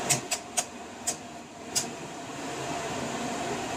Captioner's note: click, click, click of turning dial